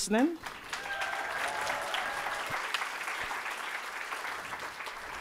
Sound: audience applauding

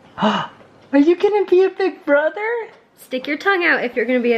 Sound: voiceover

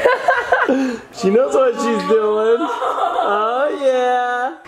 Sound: laughs

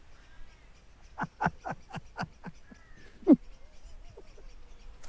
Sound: laughing

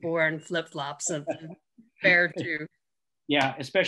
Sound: laughing

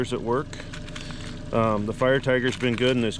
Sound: tackle rattling

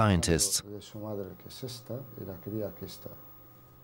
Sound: researchers speaking Greek

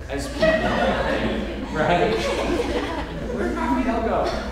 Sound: audience chuckling

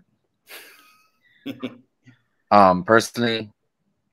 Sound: laughing

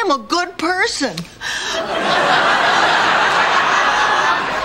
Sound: audience laughter

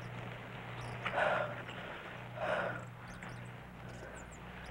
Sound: panting

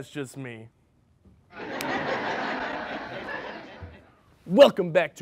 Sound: crowd laughing

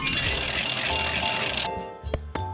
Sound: bell ringing

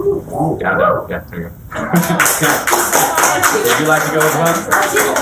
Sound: applause

